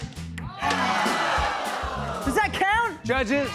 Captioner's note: audience groans